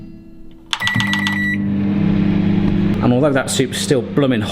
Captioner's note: microwave beeping